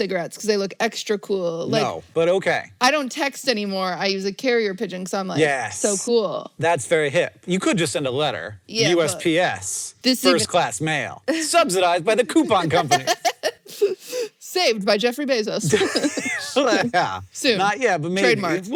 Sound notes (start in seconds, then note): 12.4 laughs; 15.6 both laugh